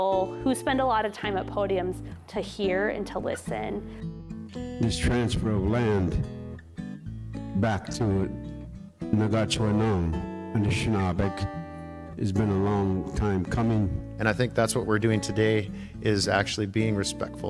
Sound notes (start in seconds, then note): 8.3 speaking in foreign language